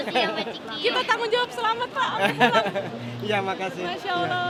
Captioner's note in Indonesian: tertawa